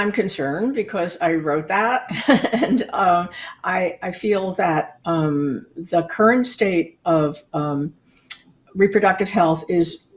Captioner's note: laughing